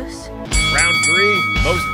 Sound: bell clangs

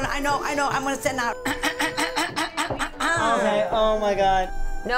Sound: clears throat

